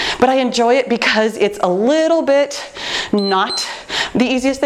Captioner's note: timer beeps